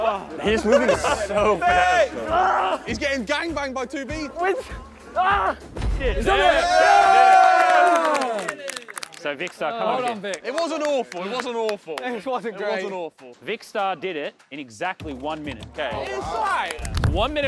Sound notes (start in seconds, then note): 5.2 Vik yelling; 6.1 contestants cheering; 15.0 contestants slightly clapping